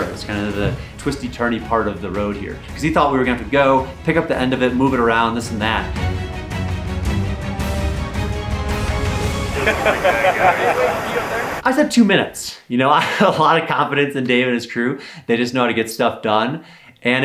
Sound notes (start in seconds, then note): 6.1 exciting orchestral music; 9.4 people laughing